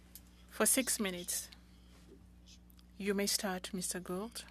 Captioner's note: speaking French